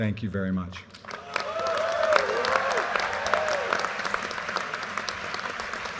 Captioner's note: audience cheers and applause